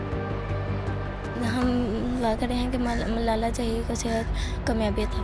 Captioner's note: non-English speech